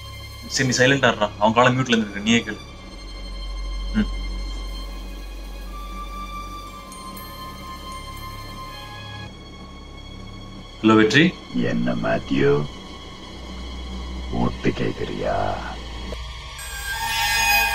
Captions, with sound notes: OK I will take him out of mute You hear it for yourself Hello Vetri (Ominous Voice) Hey Mathew, Trying to Eavesdrop?